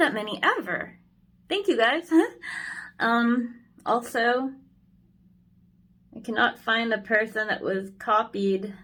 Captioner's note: giggles